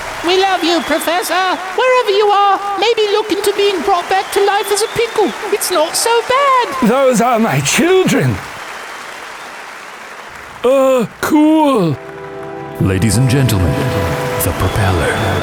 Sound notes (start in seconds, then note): 0.0 crowd clapping; 9.0 crowd continues clapping